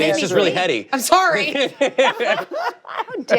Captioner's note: laughter